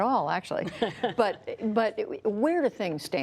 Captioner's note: laughter